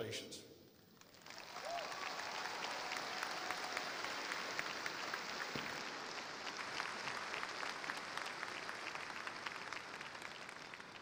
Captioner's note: applause